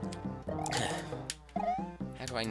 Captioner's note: sigh